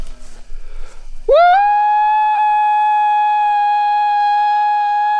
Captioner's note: howls